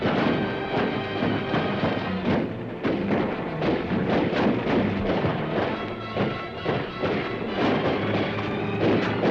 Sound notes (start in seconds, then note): 0.1 dramatic music; 1.7 guns firing; 3.5 dramatic music; 6.0 guns firing